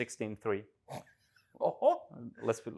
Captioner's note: chuckles